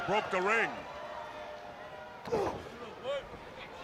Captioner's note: crowd chatter